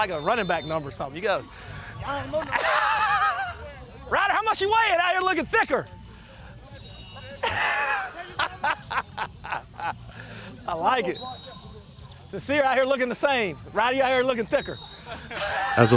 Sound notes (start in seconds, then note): 7.2 laughing